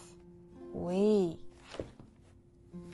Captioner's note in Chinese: 法語